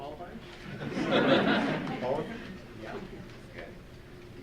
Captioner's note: audience chuckles